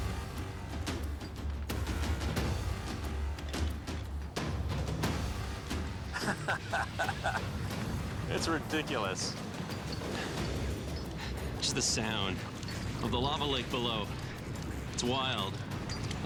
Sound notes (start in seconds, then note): 6.1 laughs; 10.0 panting